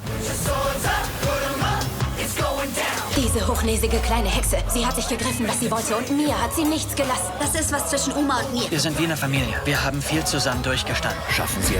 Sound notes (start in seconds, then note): 3.3 voiceover in foreign language